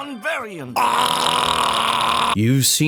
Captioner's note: death gurgle